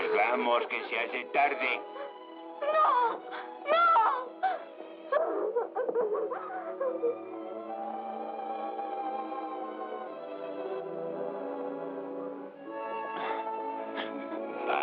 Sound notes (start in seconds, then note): 6.1 sobbing; 12.1 sobbing Continues